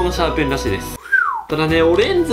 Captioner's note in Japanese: 口笛